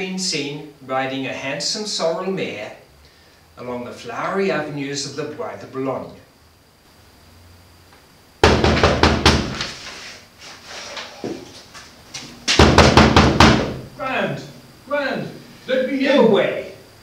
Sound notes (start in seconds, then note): 5.3 knocking at door